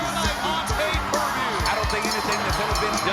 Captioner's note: bell rings